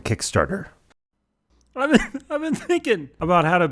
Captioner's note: obviously crying